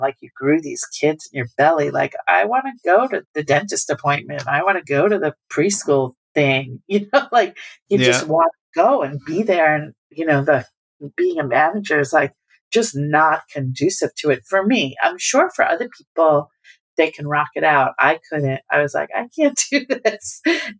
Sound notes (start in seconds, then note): 8.0 laughter